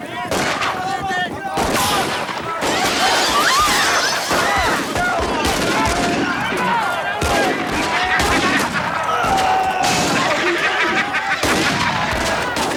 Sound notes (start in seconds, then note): 0.2 guns fire; 0.2 townsfolk yell; 2.6 plates shatter; 2.6 townsfolk scream; 5.1 guns fire; 5.1 townsfolk yell; 7.1 gun fires; 7.8 Twister laughs; 9.1 town member screams; 10.2 Twister laughs; 12.5 guns fire